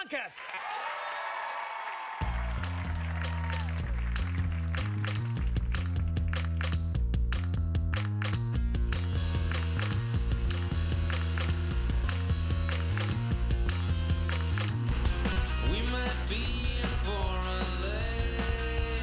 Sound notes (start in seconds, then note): 5.0 cheers and applause